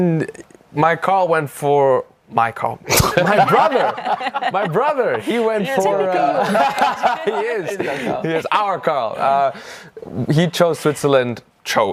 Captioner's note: laughs